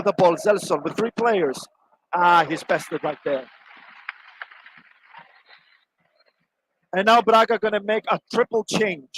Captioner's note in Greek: Χειροκρότημα